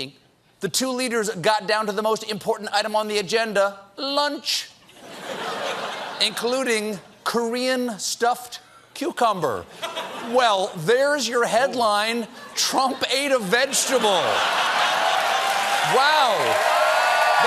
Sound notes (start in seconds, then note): 4.8 laughter